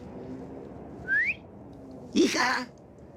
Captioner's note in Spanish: Silbido